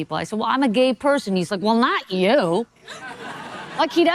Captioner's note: audience laughing